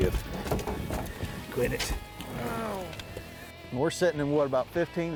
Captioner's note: men grunting